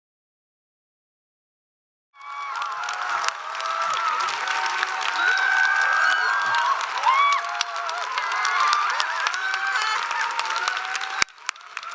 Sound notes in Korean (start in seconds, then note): 2.1 박수와 환호